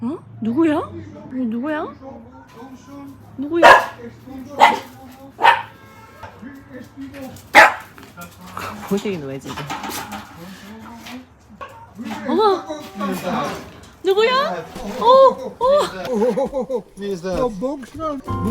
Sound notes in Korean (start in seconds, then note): 3.5 멍!